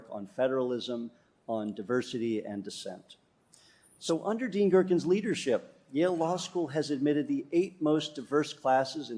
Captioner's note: none